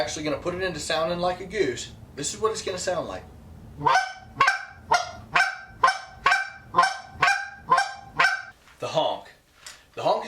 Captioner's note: goose call